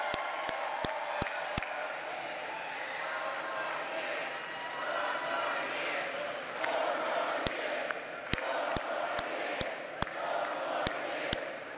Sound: crowd cheering

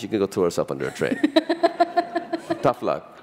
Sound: laughter

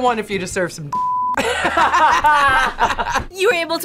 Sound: both laugh

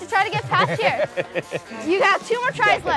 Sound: laughs

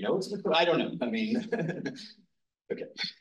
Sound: instructor laughs

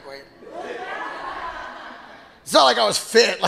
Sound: audience laughing

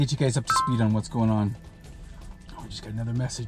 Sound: phone beeped

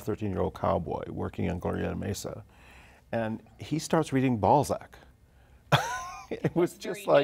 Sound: laughter

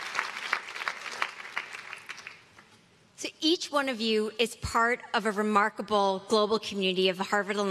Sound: applause

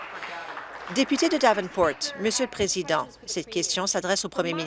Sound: applause

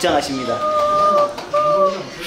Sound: applause

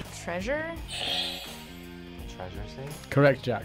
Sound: buzzer rings

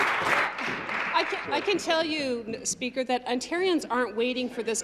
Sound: applause

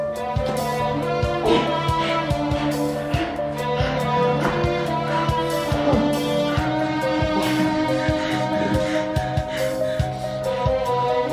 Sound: heavy breathing

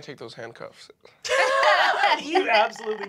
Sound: group laughing

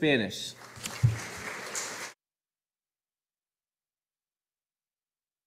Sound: audience applauding

